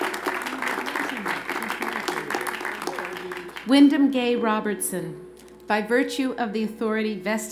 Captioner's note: applause